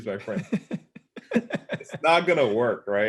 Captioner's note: laugh